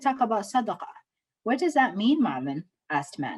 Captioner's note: speaking Somali